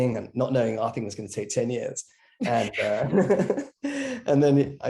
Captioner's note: laughs